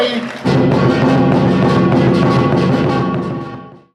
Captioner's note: audience applauding; rhythmic percussion music